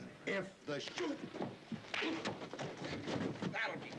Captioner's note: groaning